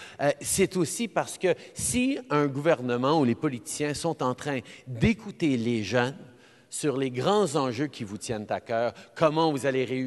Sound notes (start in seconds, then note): none